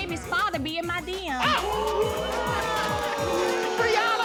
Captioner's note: audience exclaiming